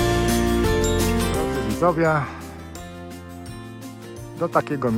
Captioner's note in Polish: dzwonek